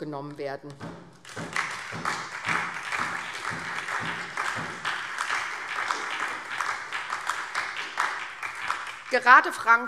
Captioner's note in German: Beifall SPD und DIE LINKE